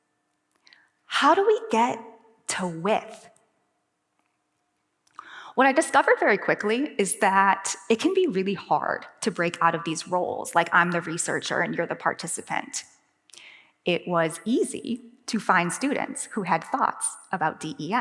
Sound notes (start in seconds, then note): none